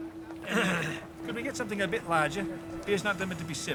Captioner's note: Wendell clears throat